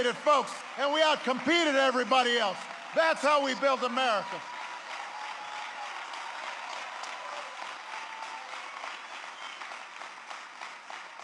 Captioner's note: applause